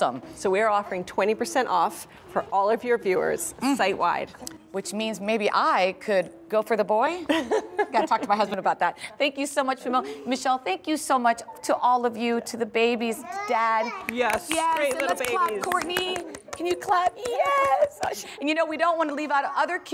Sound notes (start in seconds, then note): 7.2 laughter